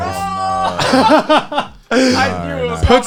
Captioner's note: laughs